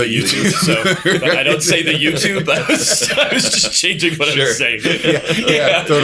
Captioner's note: laughter